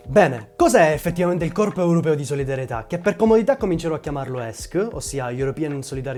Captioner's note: with an Italian accent